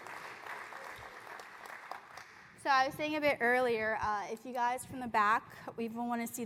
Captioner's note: applause